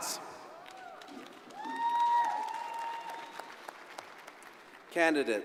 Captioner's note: crowd applauding